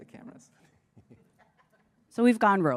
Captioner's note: laughter